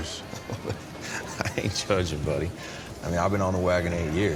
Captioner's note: chuckles